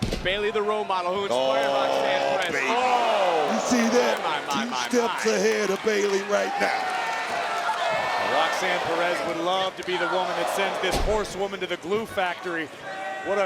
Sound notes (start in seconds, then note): 2.8 commentators exclaim